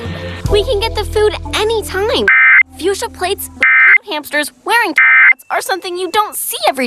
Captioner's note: alert Tones Following